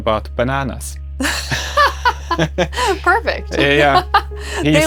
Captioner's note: laughs